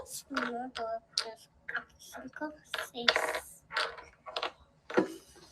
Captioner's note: teacher speaking Spanish; speaking Spanish